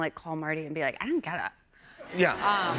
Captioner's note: laughter